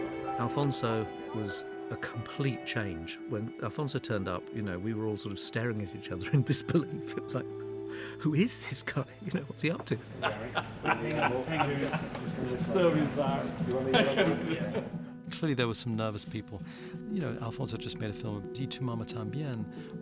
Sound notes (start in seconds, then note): 10.0 laughing